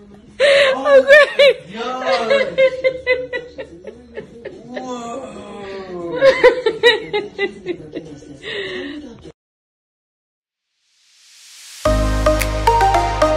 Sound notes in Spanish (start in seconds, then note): 6.1 La risa